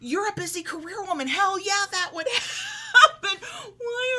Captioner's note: laughs